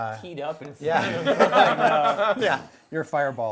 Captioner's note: laughing